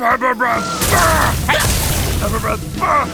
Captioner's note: dodging sounds